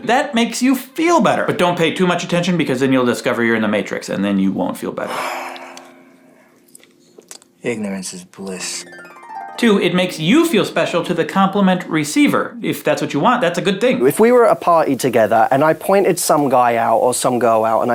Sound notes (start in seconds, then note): 5.1 man sighing; 8.2 harp playing